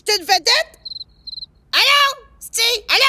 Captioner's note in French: Bruits de crickets